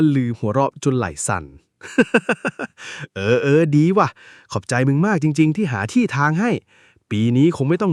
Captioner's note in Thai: เสียงหัวเราะ